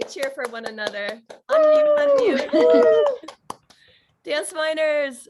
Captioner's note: all cheering